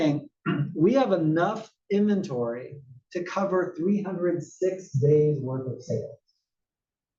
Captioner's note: cough